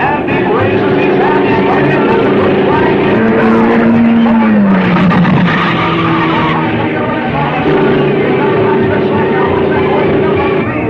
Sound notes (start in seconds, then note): 1.5 car thrumming; 5.3 car booming; 8.2 car revving